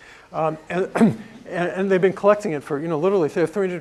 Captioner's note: laugh